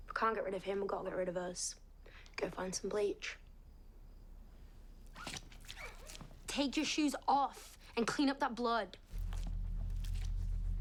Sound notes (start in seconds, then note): 5.6 squeaking